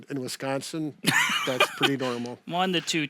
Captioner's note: laughs